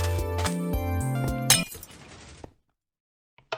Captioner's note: glass shattering